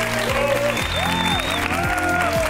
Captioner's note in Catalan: aplaudiments